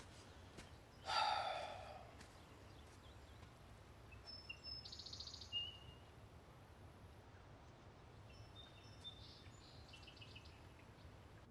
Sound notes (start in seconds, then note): 0.0 birds chirping; 1.0 Cody sighs